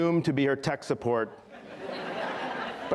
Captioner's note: laughter